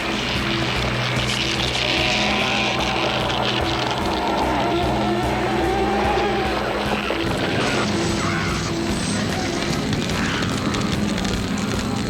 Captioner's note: screaming; gun Fires